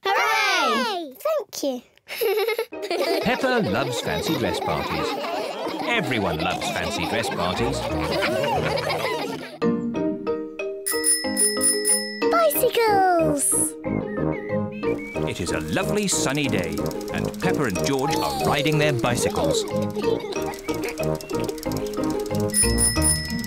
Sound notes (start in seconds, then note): 2.5 giggles; 7.8 all laugh; 10.8 bicycle bell ringing; 18.0 both giggling; 22.2 bicycle bell ringing